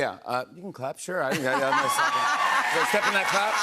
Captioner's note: cheers and applause